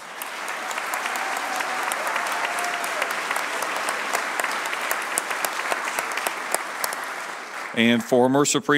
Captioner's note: applause